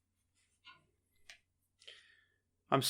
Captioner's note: small sigh